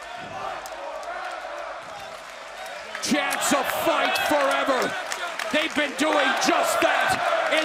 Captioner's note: fans chanting